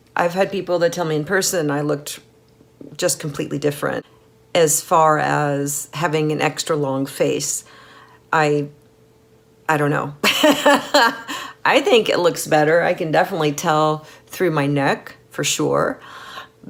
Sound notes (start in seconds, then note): 10.3 laughing